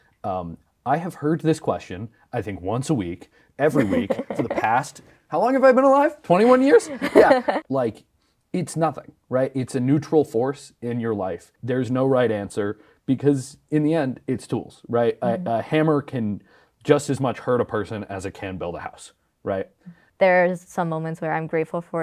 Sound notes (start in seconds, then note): 6.4 laughs